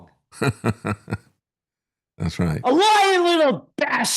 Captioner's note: laughing